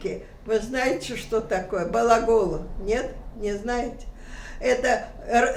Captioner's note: russian